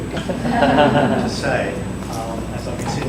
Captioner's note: audience laughing